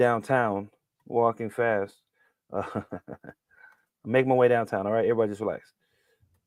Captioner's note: chuckles